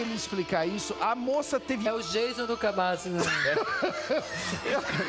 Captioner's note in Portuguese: tosse